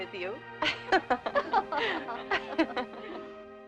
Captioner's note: both Laughing